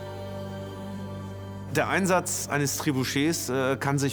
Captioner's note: in German; dubbed in English